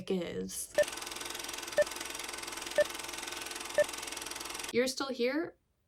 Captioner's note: 4 beeps play, film whirring